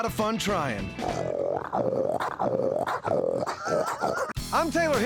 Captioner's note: imitates a hog grunting